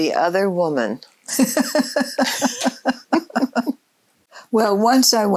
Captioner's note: both laughing